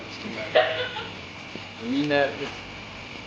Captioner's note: laughing